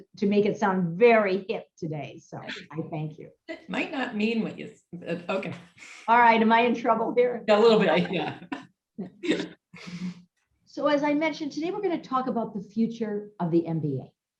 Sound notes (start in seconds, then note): 7.9 laugh